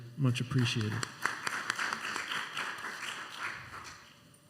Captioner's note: applause